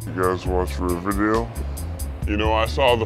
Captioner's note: Zach Modulated Voiceover; Eugene Modulated Voiceover